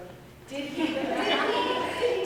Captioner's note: laughter